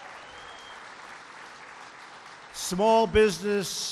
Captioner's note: applause